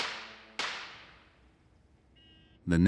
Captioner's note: gavel banging